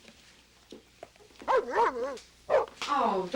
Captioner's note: dog barking